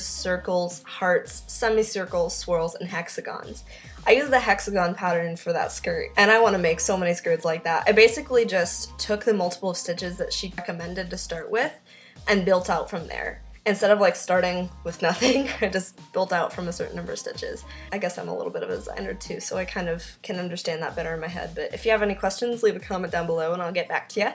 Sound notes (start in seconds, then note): 15.1 laughs